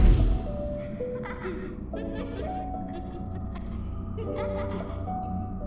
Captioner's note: laughter